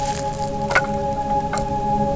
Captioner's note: firewood Clanks